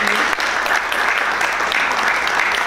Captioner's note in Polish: oklaski